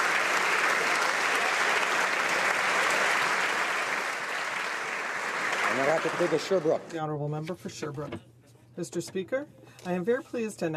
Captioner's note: applause